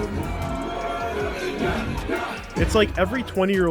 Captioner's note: party goers chanting